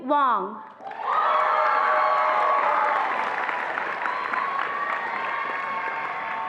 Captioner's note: attendees applauding and cheering